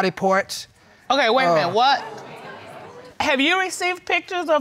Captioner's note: audience exclaiming